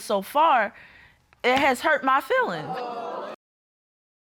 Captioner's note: audience exclaims